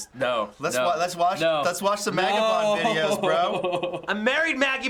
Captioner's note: sobs